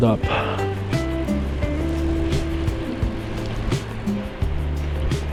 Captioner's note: wind Blowing